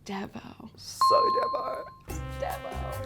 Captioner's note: dinging